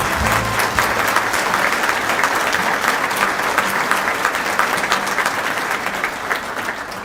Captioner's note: applause